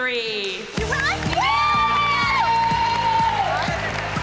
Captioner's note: cheering and applause